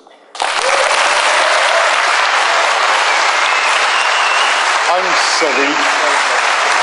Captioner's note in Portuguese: Aplauso